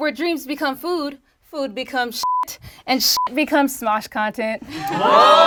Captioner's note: beep; group groans